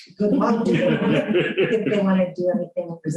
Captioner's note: laughter